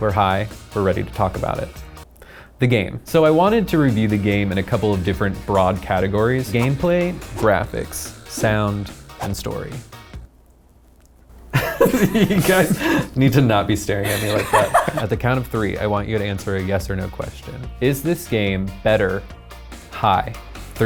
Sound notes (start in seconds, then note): 11.5 laughs